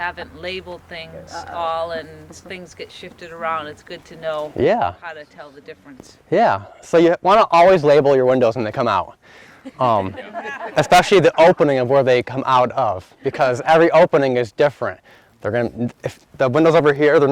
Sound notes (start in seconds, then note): 9.6 laughter